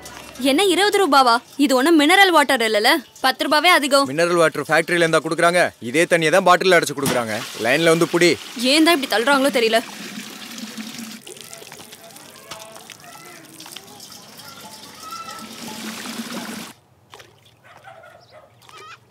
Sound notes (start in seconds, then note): 16.0 water filling sound